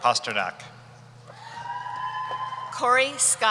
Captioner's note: cheering